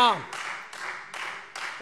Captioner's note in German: Beifall Freie Demokraten